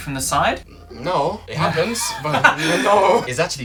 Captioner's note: laughter